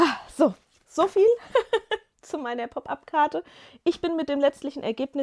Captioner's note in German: gelächter